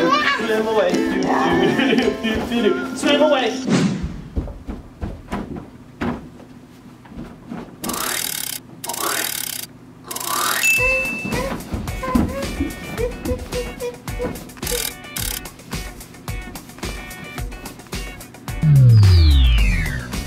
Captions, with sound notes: swim away, do do do do do do do do swim away! (cranking) (light bulb dings) (cranking) (music playing lightly)